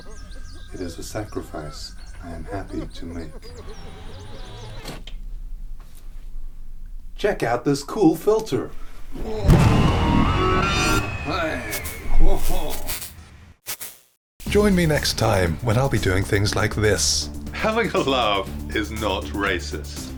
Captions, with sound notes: It is a sacrifice I am happy to make Check out this cool filter! [Screaming!] Join me next time, when I'll be doing things like this Having a laugh is not racist